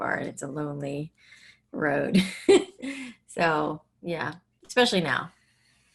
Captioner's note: laughs